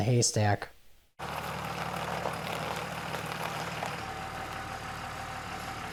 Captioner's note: tractor engine roaring